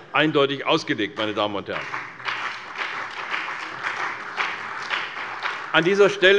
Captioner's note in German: Beifall bei der CDU und dem BÜNDNIS 90/DIE GRÜNEN